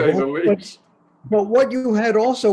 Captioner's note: laughs